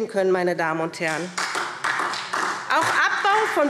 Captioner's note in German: Beifall SPD